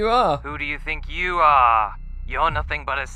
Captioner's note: voice on phone